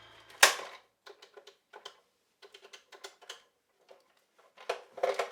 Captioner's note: dial clicking